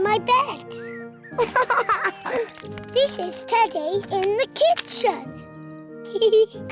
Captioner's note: giggles